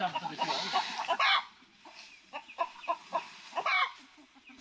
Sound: chickens squawking

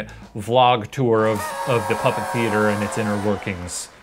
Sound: party horn blows

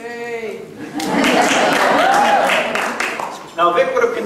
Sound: audience clapping

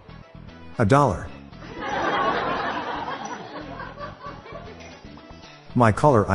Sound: laughter

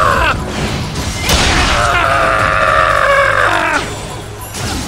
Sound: KO Scream

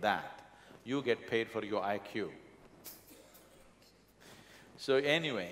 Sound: laughs

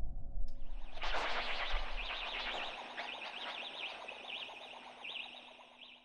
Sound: distorted audio

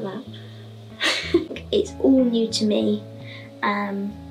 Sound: laughs

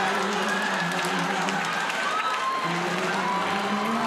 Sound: crowd laughing

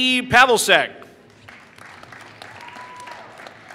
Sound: applause

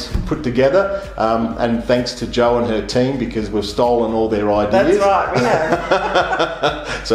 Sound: laughing

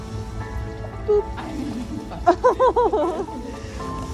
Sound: background music; chuckles; background music

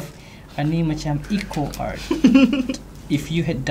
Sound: laughs

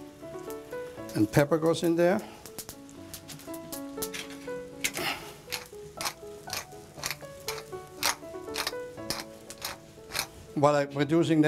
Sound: grinding noise

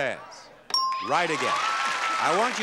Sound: bell dings

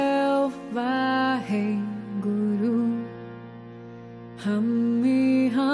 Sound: chanting foreign language

